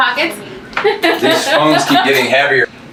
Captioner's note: laughs